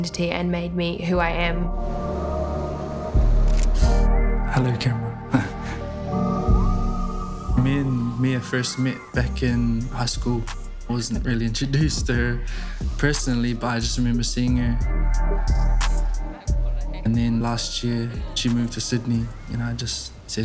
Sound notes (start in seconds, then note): 3.5 camera shutter clicks